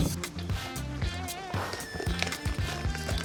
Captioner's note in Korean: 오물오물